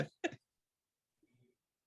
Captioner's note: silence